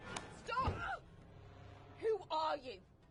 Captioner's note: Mona screams in pain